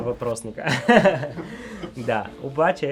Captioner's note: laughs